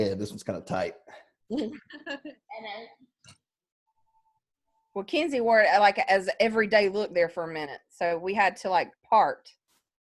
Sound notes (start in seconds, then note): 1.6 laughs